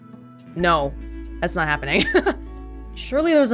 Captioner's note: chuckles